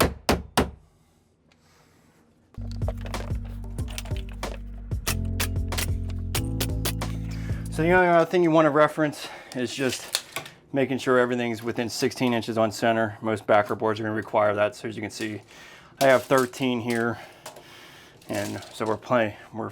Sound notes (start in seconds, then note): 2.6 gentle music; 5.0 nails clicking